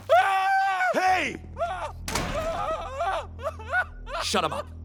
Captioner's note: very girly screaming; sobbing